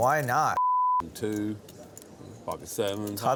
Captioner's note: beep